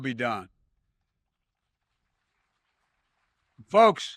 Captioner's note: applause